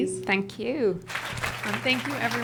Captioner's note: applause